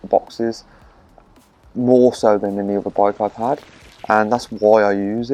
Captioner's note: splash